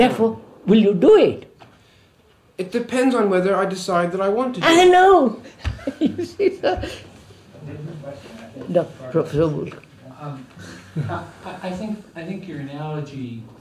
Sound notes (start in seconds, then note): 5.4 laughs